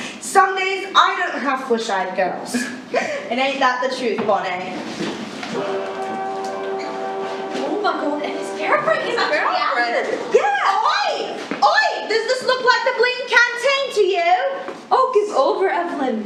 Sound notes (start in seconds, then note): 5.4 muffled Chatter; 5.5 dramatic Music